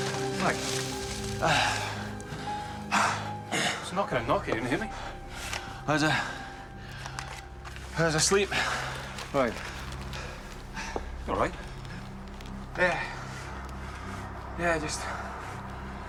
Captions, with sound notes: Mack. (Mack sighs) I was knocking and knocking. You didn't hear me? I was... I was asleep. Right. You all right? Yeah. Yeah, I just...